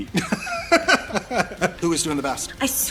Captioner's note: laughter